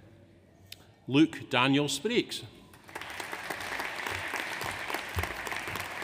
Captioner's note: audience applauds